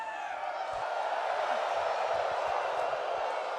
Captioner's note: crowd wooing